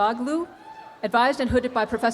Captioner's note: students cheer